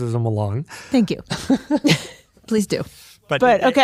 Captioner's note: laughs